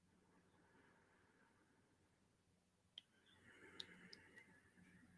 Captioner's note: breathes